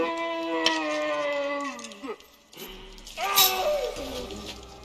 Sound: beast groaning

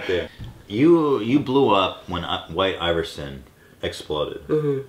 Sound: stutter; mumbles in agreement

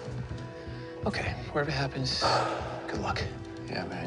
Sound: sighs

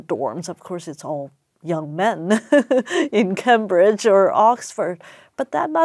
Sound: laugh

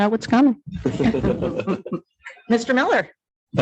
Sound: audience laughing

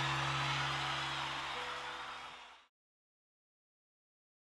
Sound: audience cheering

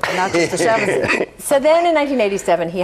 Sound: group laughs

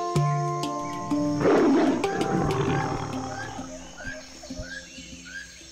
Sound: jaguar roar

